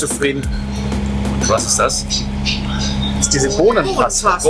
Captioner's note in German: skeptisch